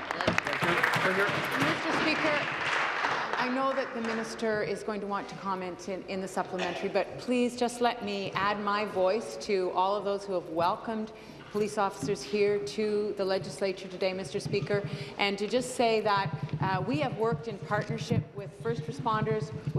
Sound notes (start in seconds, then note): 4.2 applause